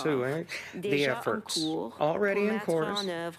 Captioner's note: speaking French